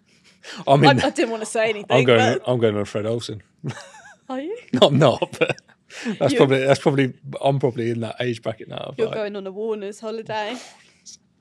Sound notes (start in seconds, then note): 4.7 laughs